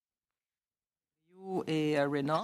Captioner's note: speaking in French